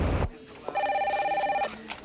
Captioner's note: telephone ringing